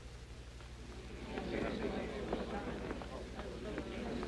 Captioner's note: crowd murmuring